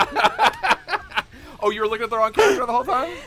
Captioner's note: laughter